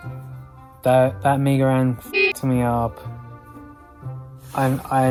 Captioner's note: beep